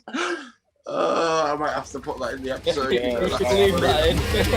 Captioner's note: laughing